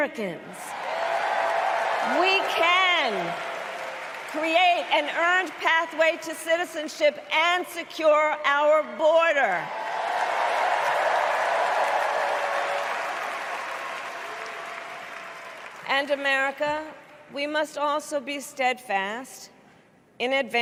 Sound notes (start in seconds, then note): 0.7 applause; 11.4 applause